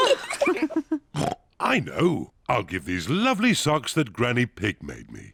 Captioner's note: kids and mummy pig laugh; oinks